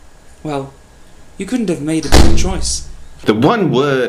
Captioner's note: thud